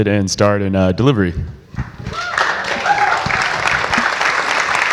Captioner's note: audience applauds